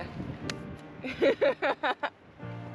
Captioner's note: laughs